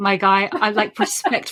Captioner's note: laughs